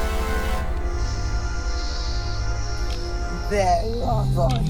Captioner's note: snake hissing